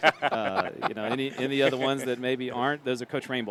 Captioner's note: laughter